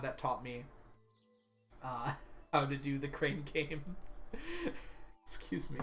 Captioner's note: laughs; chuckles